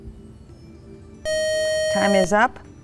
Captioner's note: buzzer